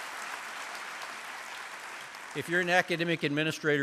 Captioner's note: applause